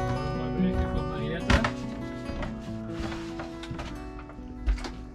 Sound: speaking foreign language

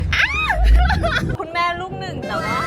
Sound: screaming

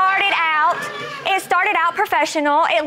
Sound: audience exclaiming

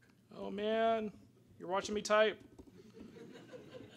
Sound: audience laughter

